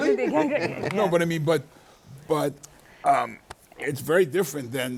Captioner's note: chuckles